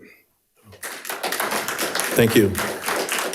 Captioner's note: audience applauding